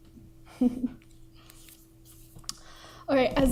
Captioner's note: giggles